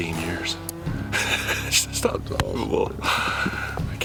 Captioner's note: laughs